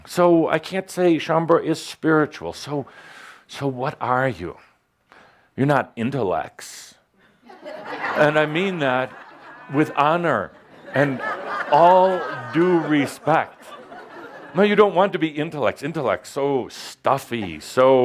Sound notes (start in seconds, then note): 7.4 laughter; 10.3 more laughter